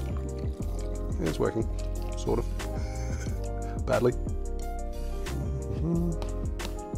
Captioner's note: chuckles